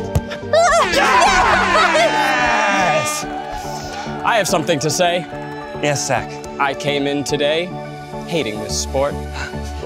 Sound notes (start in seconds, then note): 0.6 horn blows